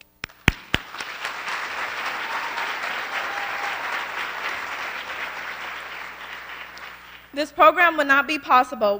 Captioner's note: applause